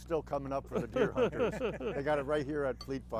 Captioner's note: laugh